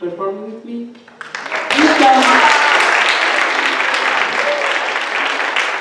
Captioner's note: clapping